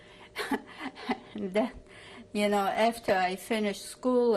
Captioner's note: laughs